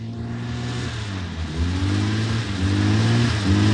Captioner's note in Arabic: هدير المحرك